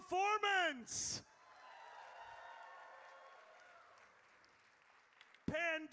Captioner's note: audience cheers